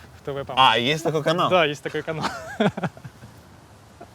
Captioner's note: both laugh